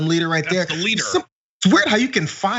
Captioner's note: laugh